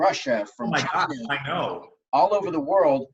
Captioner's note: murmur